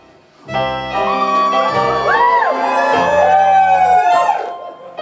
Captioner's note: audience cheers